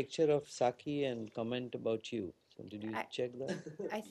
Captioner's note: laughter